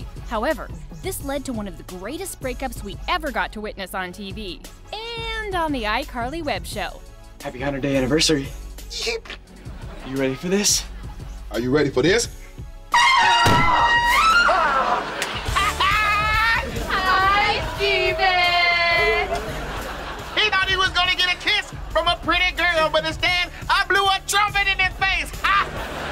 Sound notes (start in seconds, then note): 8.7 sniffling; 15.2 laughing